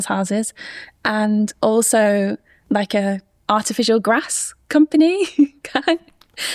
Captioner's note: chuckles